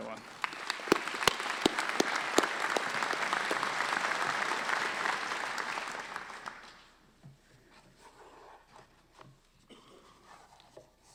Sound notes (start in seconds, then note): 3.2 applause